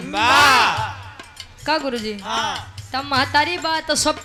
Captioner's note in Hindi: चीखने की आवाज़